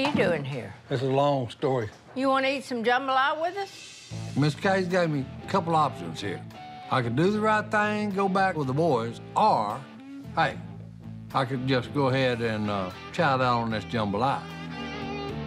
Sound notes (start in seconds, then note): none